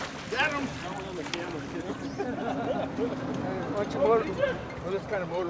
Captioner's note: background chatter